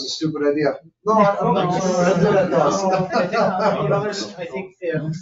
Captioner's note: people chatter